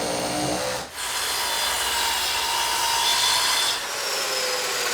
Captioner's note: equipment whirring